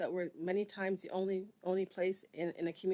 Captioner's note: speaking French